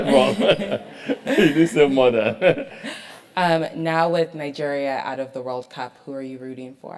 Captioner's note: laugh